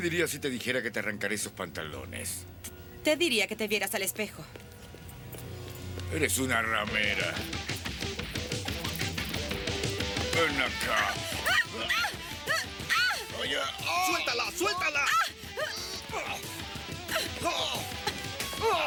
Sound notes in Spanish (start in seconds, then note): 7.3 música rock animada; 11.3 Jodie gritando; 13.2 resmungando; 16.0 gritando